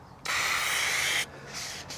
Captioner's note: spraying